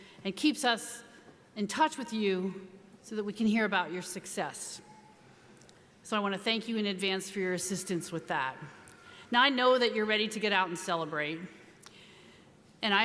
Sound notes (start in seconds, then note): none